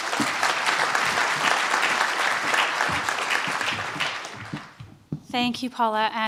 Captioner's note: applause